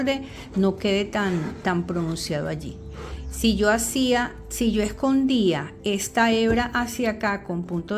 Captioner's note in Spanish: resoplido